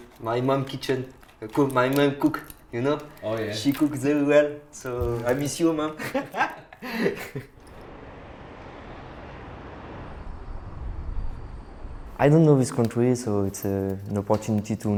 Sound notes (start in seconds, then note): 5.9 chuckles